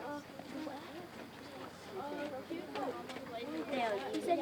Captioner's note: children chattering